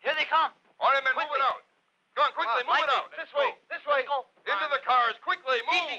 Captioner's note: all chattering